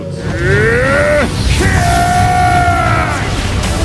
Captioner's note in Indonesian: berteriak